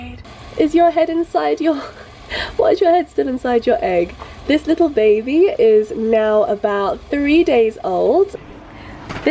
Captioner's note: giggle